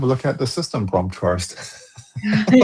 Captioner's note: laughter